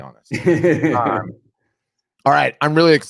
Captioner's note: laughing